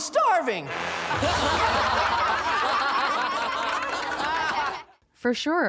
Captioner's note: audience laughs